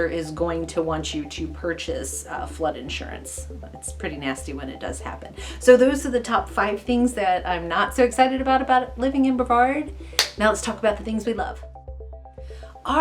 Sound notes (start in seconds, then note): 10.2 clapping